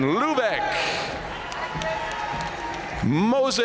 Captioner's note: audience cheering and applauding